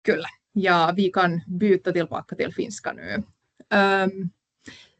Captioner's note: puhuu ruotsia